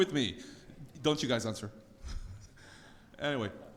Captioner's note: laughs